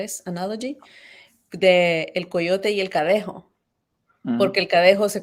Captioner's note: speaking in Spanish